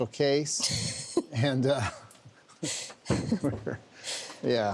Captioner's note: laugh